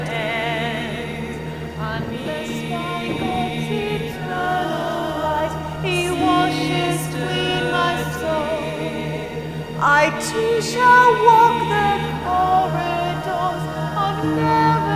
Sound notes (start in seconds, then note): 0.0 singing; 0.0 sirens singing; 4.4 singing; 9.7 sirens singing; 12.4 singing